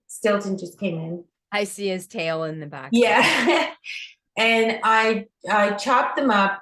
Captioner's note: laughs